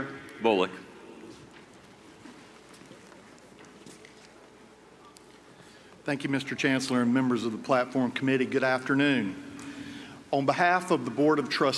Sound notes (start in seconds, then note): none